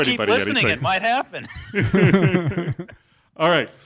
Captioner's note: laughing